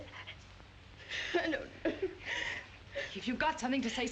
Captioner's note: crying